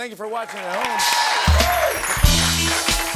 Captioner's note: cheers and applause